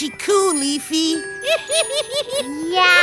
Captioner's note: giddy laughter